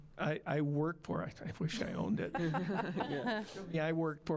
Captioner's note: scattered laughing